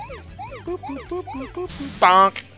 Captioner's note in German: macht willkürliche Geräusche